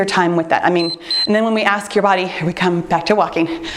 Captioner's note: timer beeps